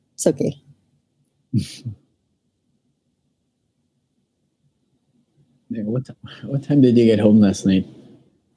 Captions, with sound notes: It's okay. [Chuckles] NICO What time did you get home last night?